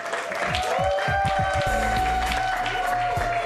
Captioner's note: cheers and applause